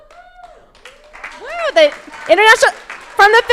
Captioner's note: crowd applauding